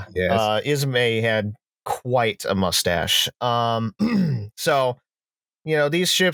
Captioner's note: clears throat